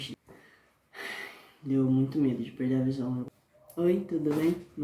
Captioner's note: sigh